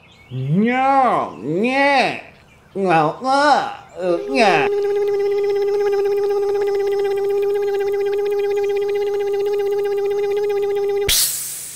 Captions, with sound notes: mumbles [ electric motor hum] [ hiss]